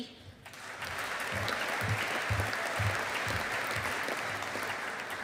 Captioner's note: audience applauding